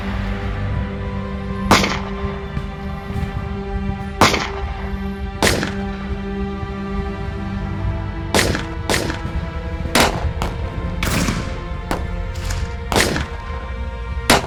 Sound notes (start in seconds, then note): 5.2 tense music continues; 9.9 gunshot cracking continues